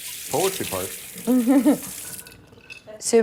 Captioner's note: laughs